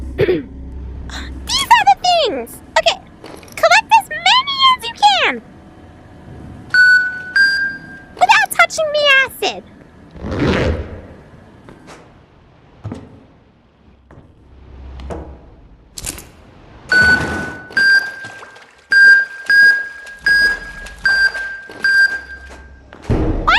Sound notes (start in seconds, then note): 6.6 beep beep